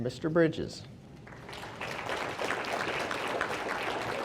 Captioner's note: audience applauding